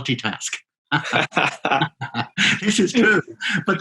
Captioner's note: both laughing